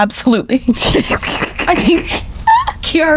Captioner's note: both laugh